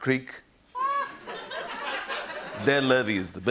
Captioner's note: laughter